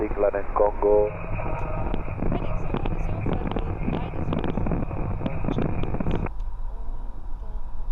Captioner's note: static hissing